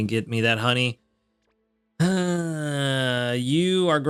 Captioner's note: sighs